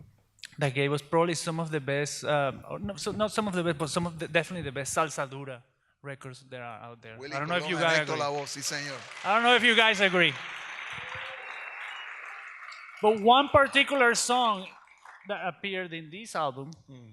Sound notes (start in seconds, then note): 7.5 speaks in Spanish; 9.1 audience applauds; 11.6 audience cheers